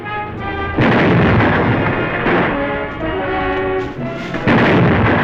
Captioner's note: explosions